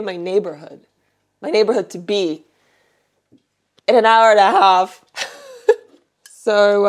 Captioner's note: chuckles